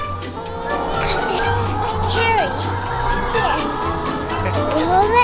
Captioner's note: chicken cackling